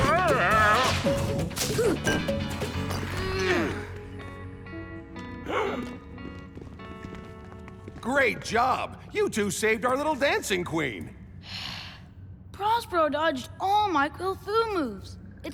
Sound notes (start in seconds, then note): 5.4 gasps; 11.3 sighs dejectedly